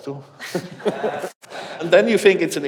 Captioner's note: laughing